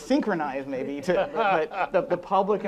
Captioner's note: laughing